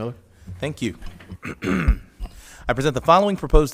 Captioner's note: clears throat